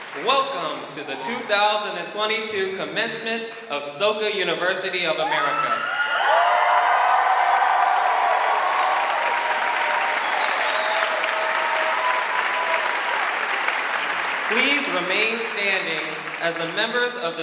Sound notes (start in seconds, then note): 5.9 audience cheering; 5.9 audience clapping